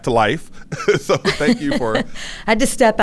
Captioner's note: laughs